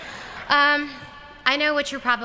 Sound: laughter

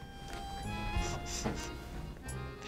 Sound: sniffing

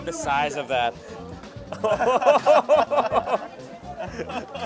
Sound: laughs

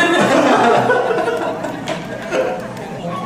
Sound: hehehehehehe

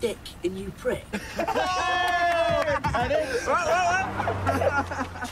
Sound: laughter

